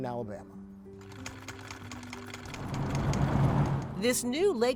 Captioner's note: sewing machine clicks